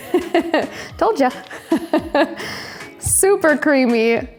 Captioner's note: laughs